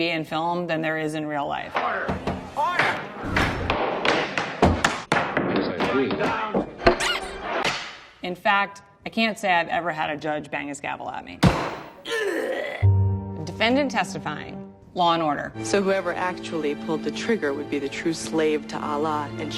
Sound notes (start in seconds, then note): 3.2 gavel banging; 11.3 gavel bangs; 12.0 man groans